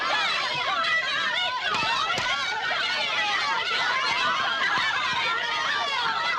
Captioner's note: all yelling